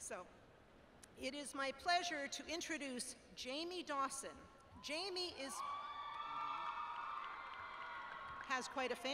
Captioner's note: cheering